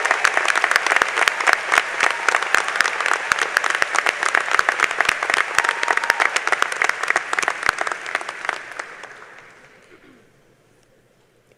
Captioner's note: applause